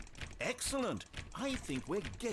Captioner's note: click